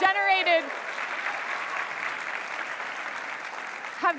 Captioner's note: applause